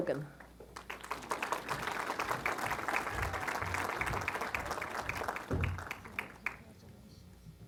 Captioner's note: applause